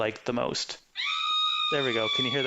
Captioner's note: person screaming